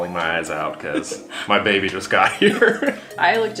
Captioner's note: laughs